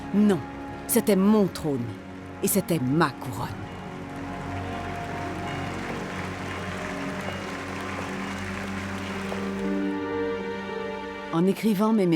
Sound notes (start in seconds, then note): 1.5 people applauding; 4.3 bells ringing; 9.3 dramatic music